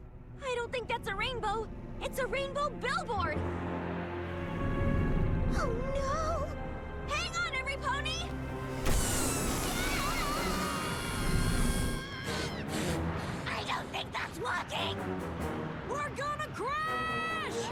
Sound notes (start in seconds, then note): 8.9 all screaming; 12.1 blowing